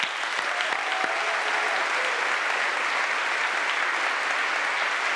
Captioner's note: audience applauds and cheers